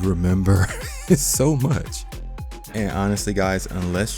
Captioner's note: laughing